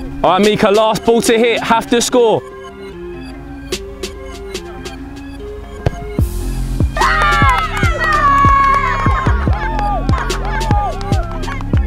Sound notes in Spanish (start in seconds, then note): 2.4 música lenta de hip hop; 6.9 vítores de la multitud